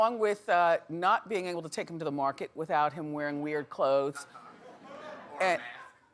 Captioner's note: audience laughing